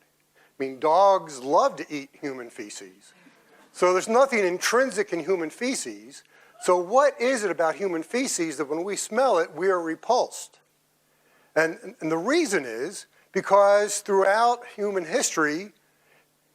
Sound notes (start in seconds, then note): none